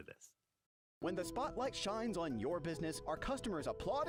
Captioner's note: voiceover